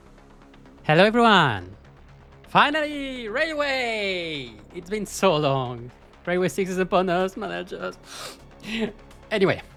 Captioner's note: sobbing